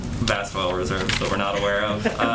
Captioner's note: laughter